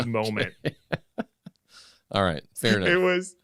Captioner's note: laughter